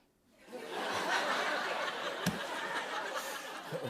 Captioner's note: laughter